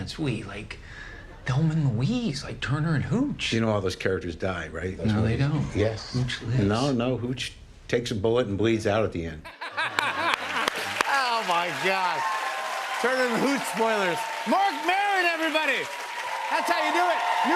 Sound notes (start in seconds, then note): 9.5 laughs; 10.0 cheers and applause